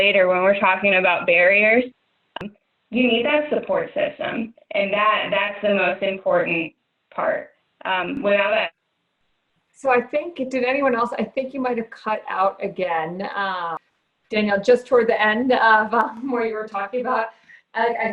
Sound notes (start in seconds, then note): 8.4 audio cuts out